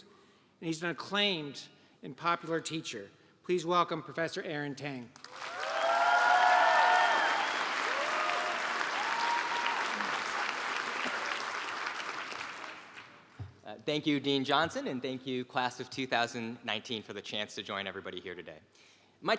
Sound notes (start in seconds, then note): 11.0 applause